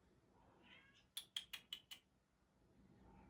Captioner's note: meows; clicks